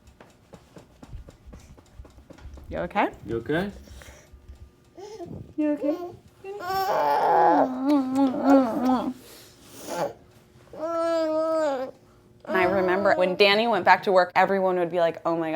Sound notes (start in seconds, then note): 7.7 kissing sounds